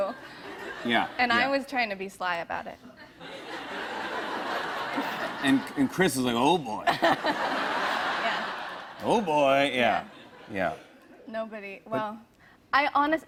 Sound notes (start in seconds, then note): 3.1 laughter